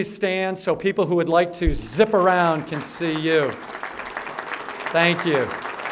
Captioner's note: applause